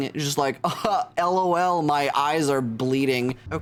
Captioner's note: none